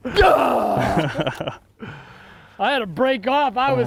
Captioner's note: laughs